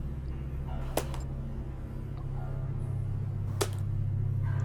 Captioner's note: glow stick clanks